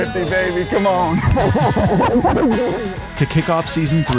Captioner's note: laughing